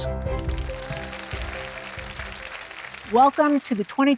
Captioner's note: audience applauding